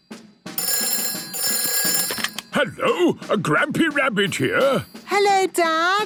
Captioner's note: phone ringing